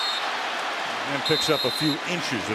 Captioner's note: whistle